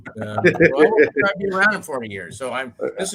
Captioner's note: laugh